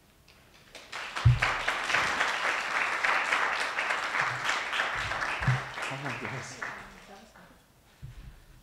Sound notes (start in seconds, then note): 0.6 audience applauding